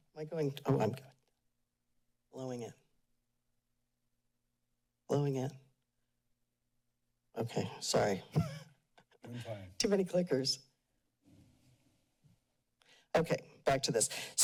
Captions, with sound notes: Am I going... Oh, I'm good. Lowing it. Lowing it. Okay, sorry. [chuckles] - You're fine. - Too many clickers. Okay, back to this.